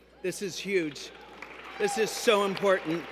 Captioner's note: cheers